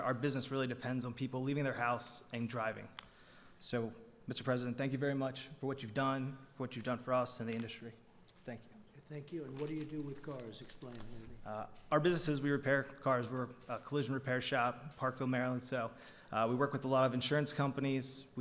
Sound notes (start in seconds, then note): none